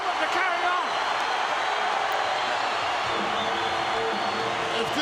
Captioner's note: audience cheering